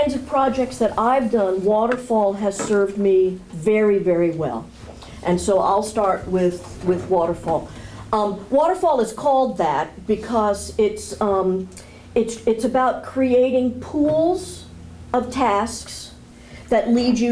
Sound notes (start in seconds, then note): none